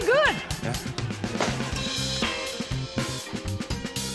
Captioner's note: pop!